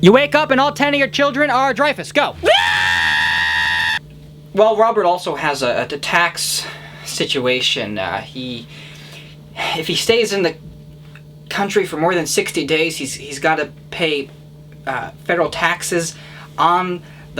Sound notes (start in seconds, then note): 2.3 bloodcurdling scream